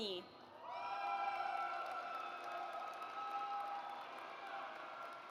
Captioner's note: audience cheers